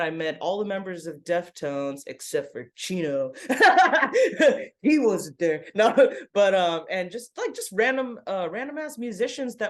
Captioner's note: laughs